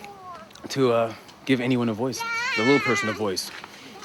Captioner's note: child cries in background